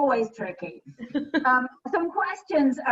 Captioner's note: laughter